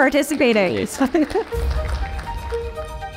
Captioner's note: audience applauding